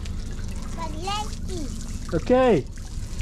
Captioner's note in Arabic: يتحدث بالهولندية